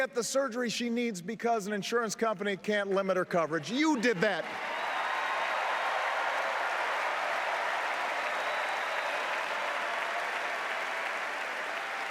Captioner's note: applause